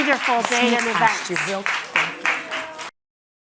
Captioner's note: attendees chattering; attendees clapping